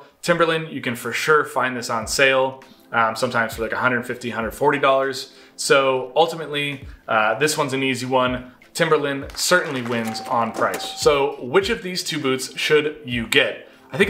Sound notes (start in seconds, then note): 9.2 audience claps; 9.3 counter chimes